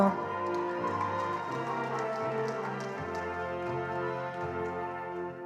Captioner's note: attendees applauding